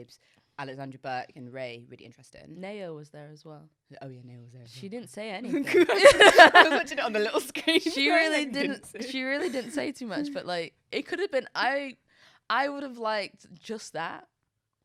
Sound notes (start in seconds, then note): 5.5 both laughing